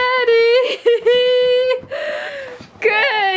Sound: laughing

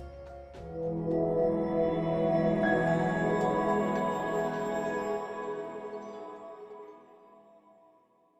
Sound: swelling tone, high tone strike, fade out

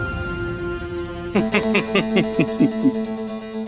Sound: laughing

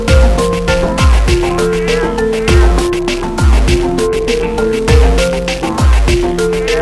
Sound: doors woosh open and closed

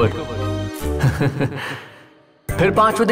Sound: laughing

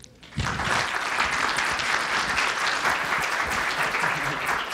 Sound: audience applause

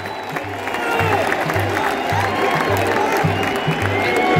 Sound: clap

